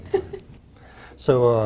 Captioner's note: laugh